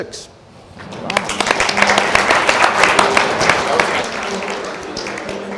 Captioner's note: audience applauding